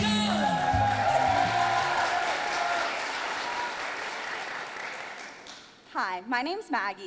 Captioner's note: audience applauding